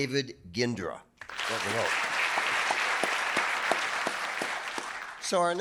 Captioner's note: audience applauding